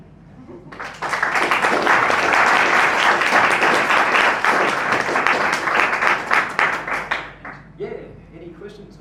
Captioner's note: applause